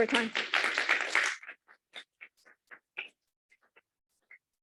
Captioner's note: applause